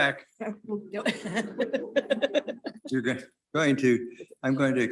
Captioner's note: board members chuckle